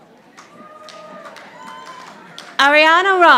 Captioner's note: audience applauding